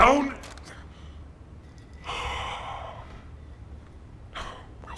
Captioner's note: sighs